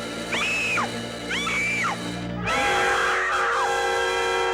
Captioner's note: woman screaming